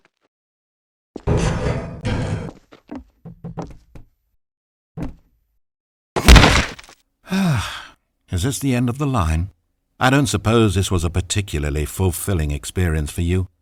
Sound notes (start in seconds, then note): 7.2 sigh